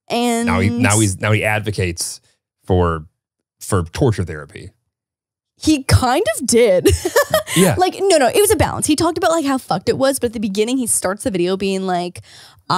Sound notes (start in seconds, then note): 7.0 laughs